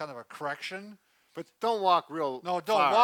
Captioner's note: chuckles